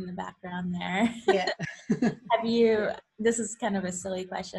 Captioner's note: laughs